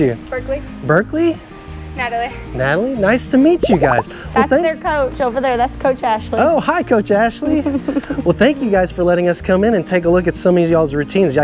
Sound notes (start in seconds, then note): 3.6 texts burbling